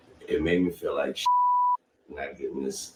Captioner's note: beep